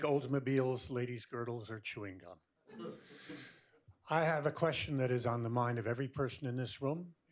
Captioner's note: laughter